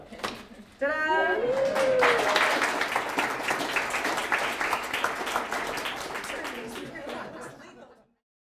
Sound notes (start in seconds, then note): 5.0 applause